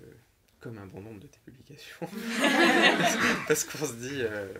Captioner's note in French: rires